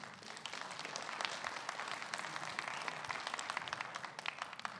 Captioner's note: audience claps